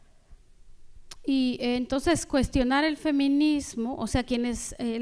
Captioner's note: speaking spanish